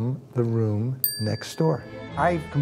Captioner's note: bell dings